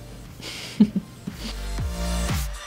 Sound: laughs

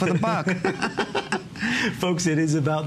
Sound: laughter

